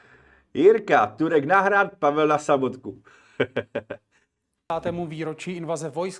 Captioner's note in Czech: smích